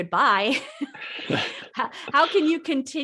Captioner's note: laughing